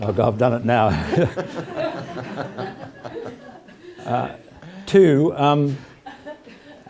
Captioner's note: laugh